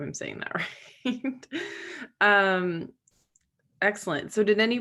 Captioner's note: Megan laughing